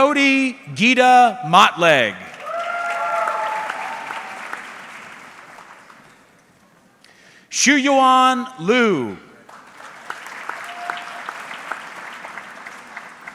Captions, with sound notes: Jody Gita Mottlegg. (audience cheering) Xuyuan Liu. (audience clapping)